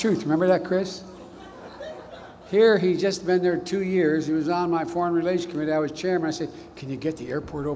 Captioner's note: laughter